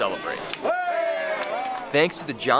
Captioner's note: applause